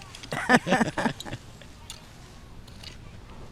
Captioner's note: laughter